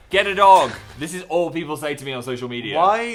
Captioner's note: laughs